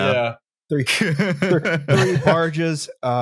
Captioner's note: laughs